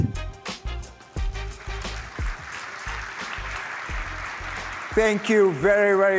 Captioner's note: applause